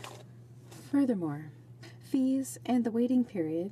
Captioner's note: speaking in french